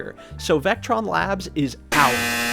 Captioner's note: extremely incorrect buzzer noise